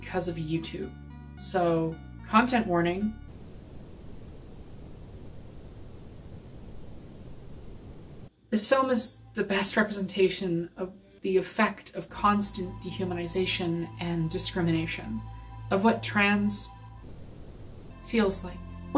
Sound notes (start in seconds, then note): 3.2 static; 17.0 static